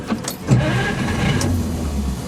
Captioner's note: engine starting